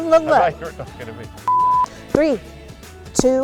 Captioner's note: beeping